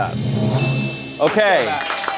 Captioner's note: bell chimes